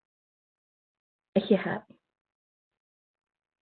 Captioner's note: speaking in native language